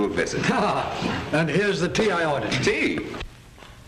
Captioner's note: laughs